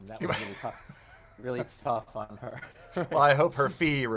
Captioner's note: laughs